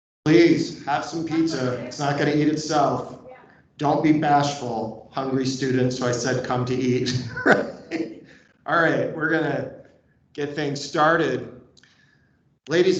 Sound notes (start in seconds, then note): 6.9 laughs